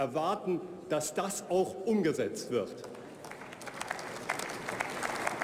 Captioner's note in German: Beifall bei Abgeordneten der CDU/CSU